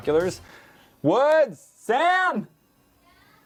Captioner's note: shouting